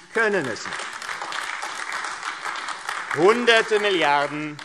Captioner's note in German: Beifall AfD